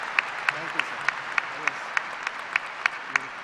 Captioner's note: applause